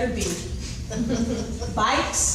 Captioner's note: laughing